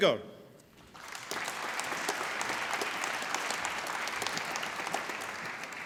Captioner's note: applause